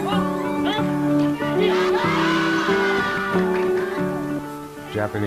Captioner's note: cheering